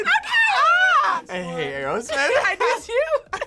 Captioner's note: laughs; laughs